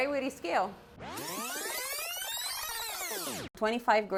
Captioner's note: film rewinding